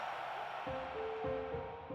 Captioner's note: crowd cheering